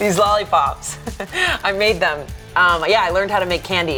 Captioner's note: laughing